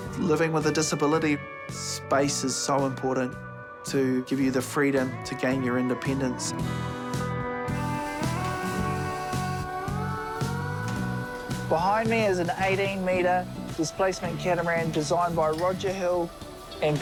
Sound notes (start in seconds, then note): 7.7 tools whirr